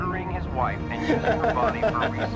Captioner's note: male guard laughing